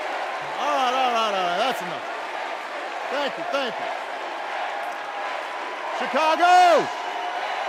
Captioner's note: cheers and applause